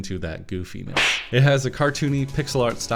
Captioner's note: slap